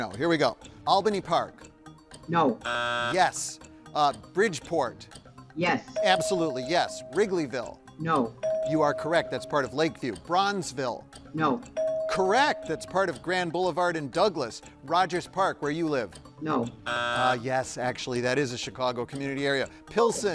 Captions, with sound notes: Albany Park. - No. (buzzer buzzing) - Yes. Bridgeport. - Yes. - Absolutely, yes. Wrigleyville. - No. - You are correct. That's part of Lakeview. Bronzeville. - No. (bell dinging) - Correct. That's part of Grand Boulevard and Douglas. Rogers Park, where you live. - No. (buzzer buzzing) - Yes, actually that is a Chicago community area. - Pilsen.